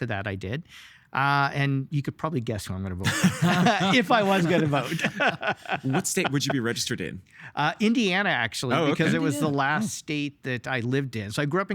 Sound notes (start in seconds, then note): 3.0 laughing